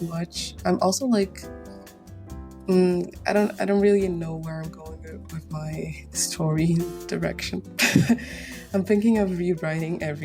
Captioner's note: chuckles